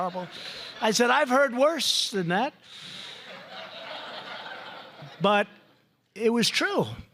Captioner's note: laughter